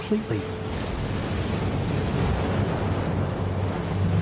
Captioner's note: waves crashing